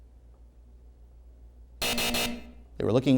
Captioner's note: hard buzzing